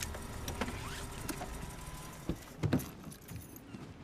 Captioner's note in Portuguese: motor desliga